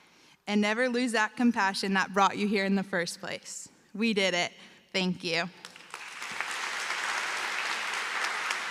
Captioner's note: applause